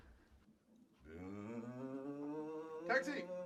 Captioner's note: making a car engine noise